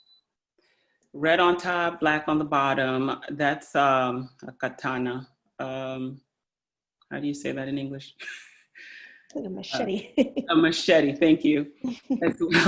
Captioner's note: speaking in Foreign Language